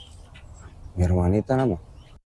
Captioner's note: speaking in a global language